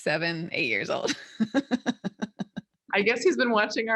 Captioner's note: laughing